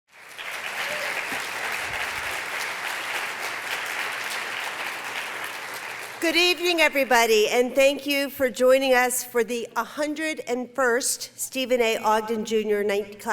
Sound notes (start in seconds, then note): 0.0 applause